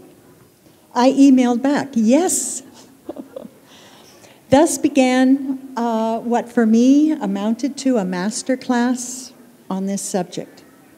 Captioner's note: chuckle